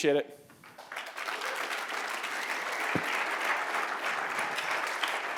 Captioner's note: applause